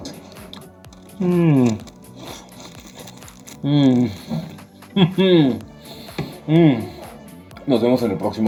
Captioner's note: yummy noises